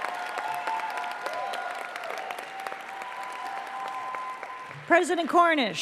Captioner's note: applause